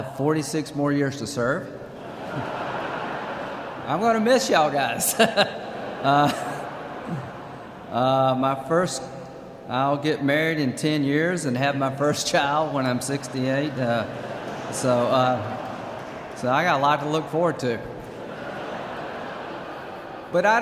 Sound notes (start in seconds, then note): 1.9 laughter; 6.1 laughs; 14.6 laughter